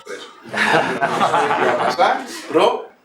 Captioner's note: laughter